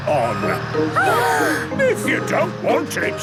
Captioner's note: children gasp